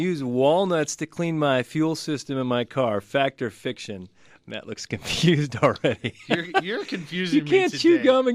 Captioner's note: laughs